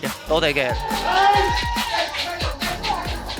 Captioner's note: CFO staff cheering